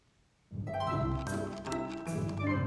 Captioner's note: mouse scrolling